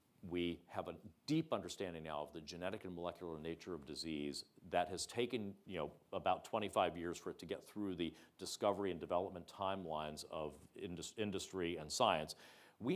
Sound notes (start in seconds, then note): none